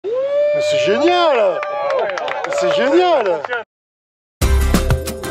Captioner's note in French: applaudissements